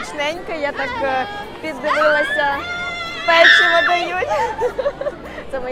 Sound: children shout

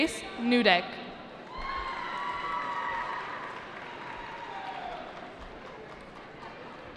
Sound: cheering

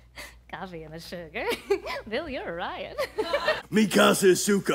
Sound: laughs

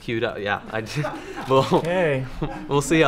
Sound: laughing

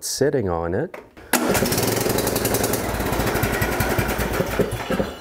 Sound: engine starting

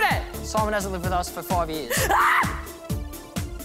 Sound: screams

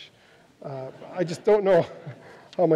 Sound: audience laughs

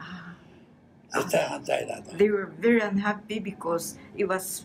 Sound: foreign language

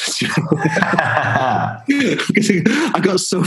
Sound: laughter

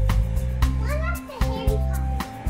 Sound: indistinct chatter

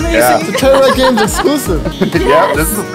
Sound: laughs

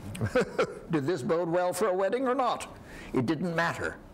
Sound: laughs

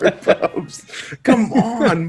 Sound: laugh

